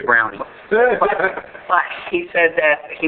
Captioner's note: laughing